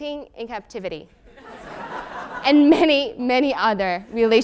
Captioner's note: laugh